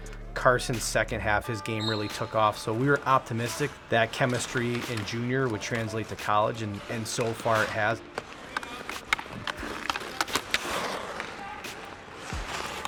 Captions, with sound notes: Carson's second half his game really took off so we were optimistic that chemistry in Junior would translate to college and so far it has. (hockey stick hitting)